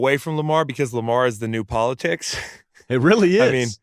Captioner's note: laughs